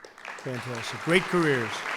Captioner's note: applause